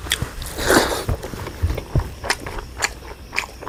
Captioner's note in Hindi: नाक से की जाने वाली आवाज़